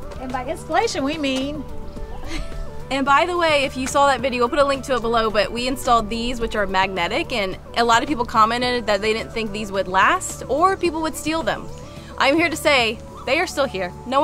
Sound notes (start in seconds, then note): 2.0 laughs